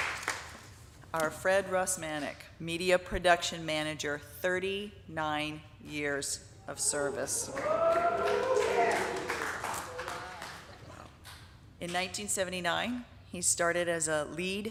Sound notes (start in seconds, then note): 6.8 audience cheering; 7.3 audience applauding